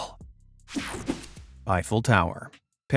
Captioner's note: image whipping effect